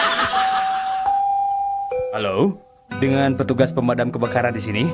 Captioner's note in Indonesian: tertawa